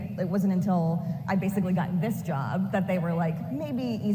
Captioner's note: none